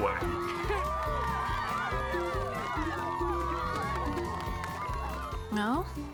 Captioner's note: cheering